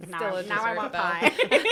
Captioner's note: laughter